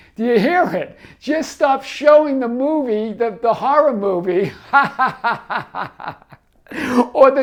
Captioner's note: laughs